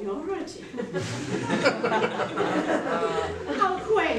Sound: laughter

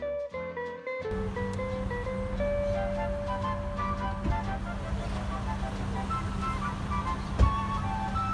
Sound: car running

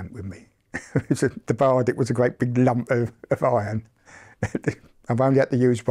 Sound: laughs

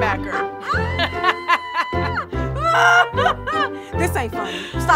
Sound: both laughing

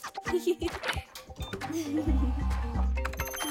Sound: giggling; whirring

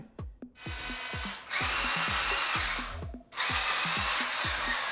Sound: robot whirring

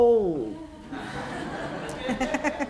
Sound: laughter

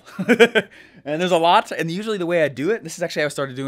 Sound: laughing

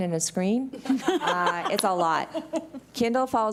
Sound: laughing

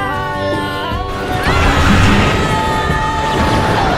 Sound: screaming

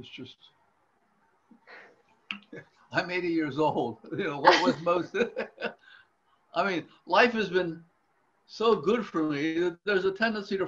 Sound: laughs

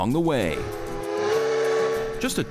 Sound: train whistle blowing

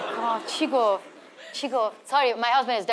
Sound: speaks in foreign language

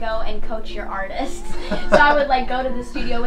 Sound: both laughing

